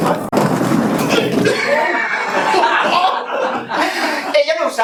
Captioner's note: laughs